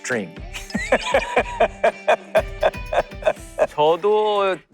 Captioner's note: A hearty laugh